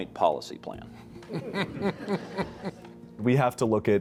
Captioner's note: class laughs